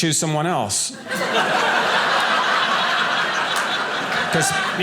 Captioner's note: audience laughing